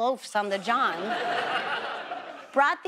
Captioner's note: audience laughs